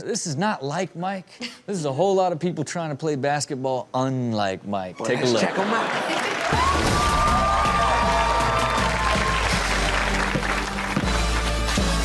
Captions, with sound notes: this is not like Mike, this is a whole lot of people trying to play basketball unlike Mike, take a look. - Lets check them out. (audience cheers)